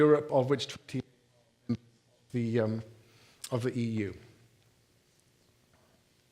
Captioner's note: mic cuts out